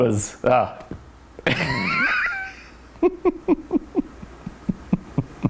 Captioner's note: laughing